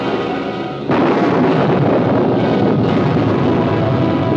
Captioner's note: thunder